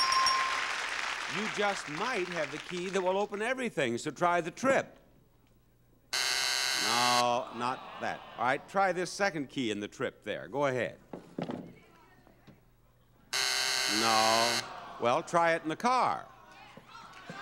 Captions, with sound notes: You just might have the key that will open everything. So try the trip. (buzzer sounds) No, not that. (audience sighing) All right, try this second key in the trip there, go ahead. (buzzer sounds) No. Well, try it in the car.